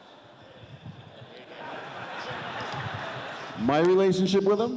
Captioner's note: audience laughs